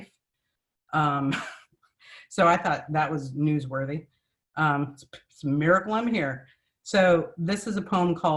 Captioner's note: laughs